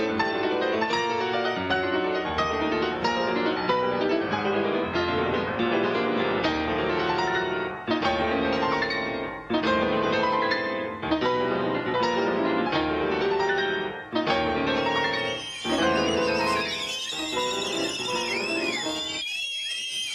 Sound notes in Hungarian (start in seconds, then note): 14.8 férfiak süvítő fütyülése